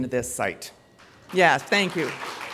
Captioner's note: applause